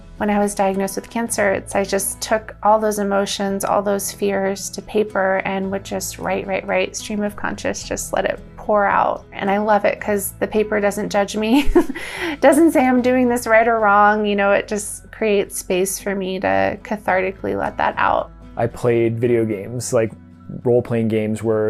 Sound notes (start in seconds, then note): 11.6 laughs